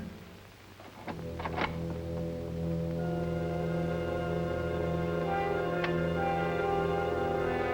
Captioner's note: door latching; tense music